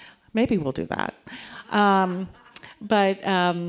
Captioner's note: audience laughing